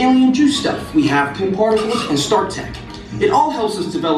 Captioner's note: mutters